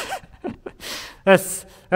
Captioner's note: laughing